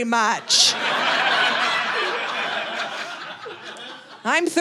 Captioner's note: audience laughing